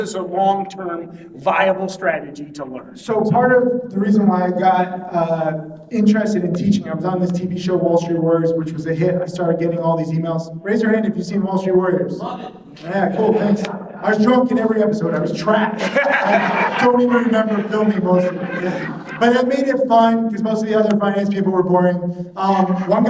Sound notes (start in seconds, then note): 13.8 audience laughing